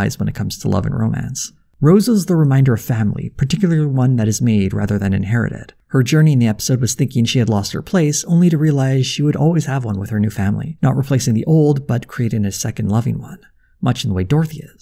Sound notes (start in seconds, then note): none